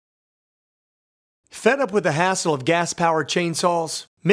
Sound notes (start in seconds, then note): 1.5 voiceover